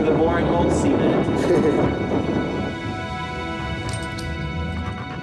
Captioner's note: laughs